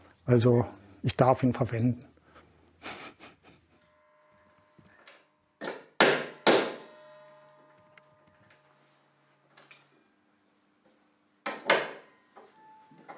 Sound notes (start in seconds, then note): 5.8 hamming